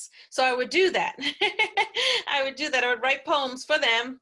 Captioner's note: laughs